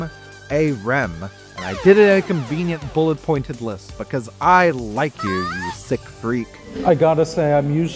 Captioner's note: random anime moan